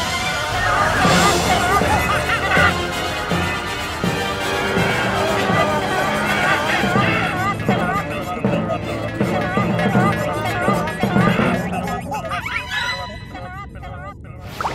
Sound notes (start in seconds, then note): 0.1 chattering; 4.4 chattering